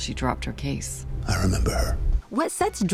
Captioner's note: whispers